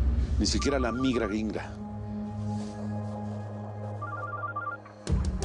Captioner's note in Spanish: Suena el celular